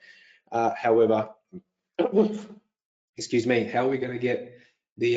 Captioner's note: sneezes